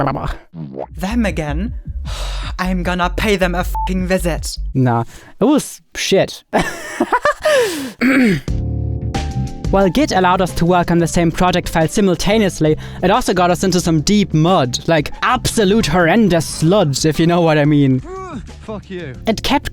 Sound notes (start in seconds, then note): 6.6 laughs; 8.8 upbeat music